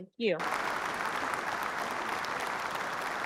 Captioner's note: applause